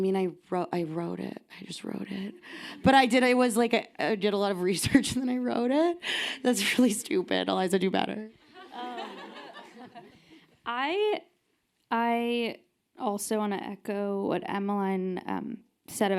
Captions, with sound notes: I mean, I wrote it. I just wrote it. But I did, I was like, I did a lot of research and then I wrote it. That's really stupid. Eliza do better. (audience laughing) - I also wanna echo what Emmeline said